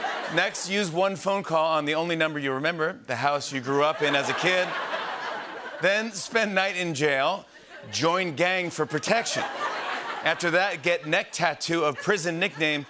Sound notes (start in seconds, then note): 0.0 laughter; 3.7 laughter